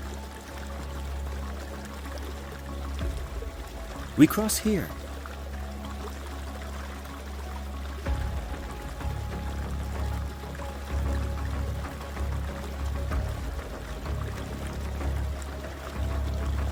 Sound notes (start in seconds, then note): 5.4 water gushing continues; 13.2 suspenseful music continues